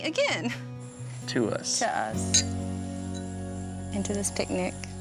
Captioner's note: glasses clinking